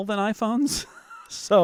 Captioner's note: laughs